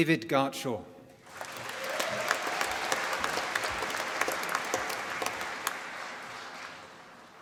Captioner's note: applause